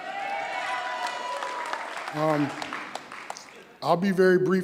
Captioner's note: applause